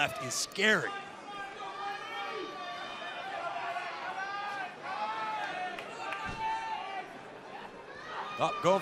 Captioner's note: crowd cheering